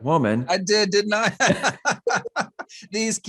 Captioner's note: laughs